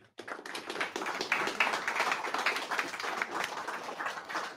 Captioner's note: audience applauding